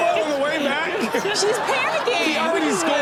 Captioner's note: chaotic chatter and laughter